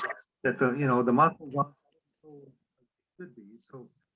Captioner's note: voice fades